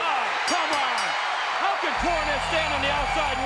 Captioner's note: bell rings